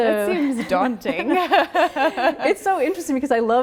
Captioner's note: both laughing